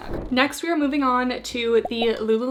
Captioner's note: screen whooshing